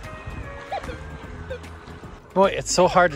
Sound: relaxing music playing; metal detector beeping

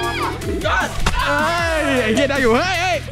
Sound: cheering

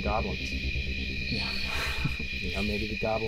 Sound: laughs

